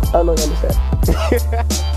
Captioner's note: laughing